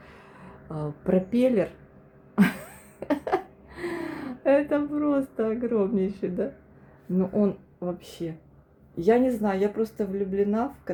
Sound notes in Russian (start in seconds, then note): 2.4 смех; 3.7 тяжело вздыхает